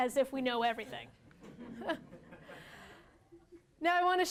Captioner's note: laughter